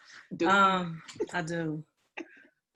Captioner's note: laughing